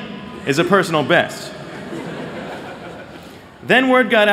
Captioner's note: laughter